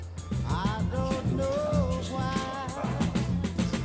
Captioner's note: indistinct chatter